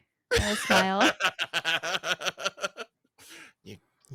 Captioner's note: laughs